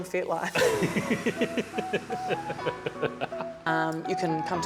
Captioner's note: laughter